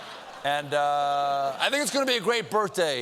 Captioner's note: laughter